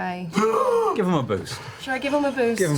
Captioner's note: gasps loudly